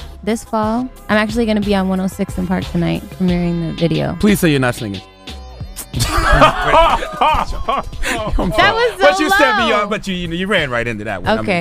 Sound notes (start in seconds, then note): 5.8 man laughing